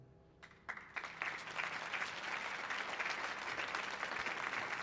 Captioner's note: audience clapping